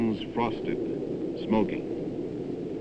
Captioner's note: jet engine firing